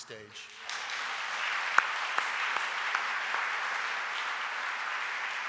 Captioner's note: audience applauding